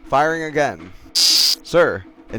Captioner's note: buzz